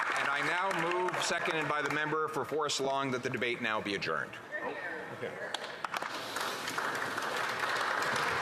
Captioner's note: some Applause